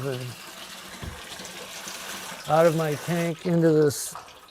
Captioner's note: none